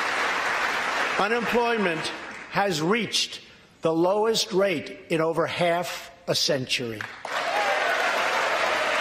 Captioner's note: applause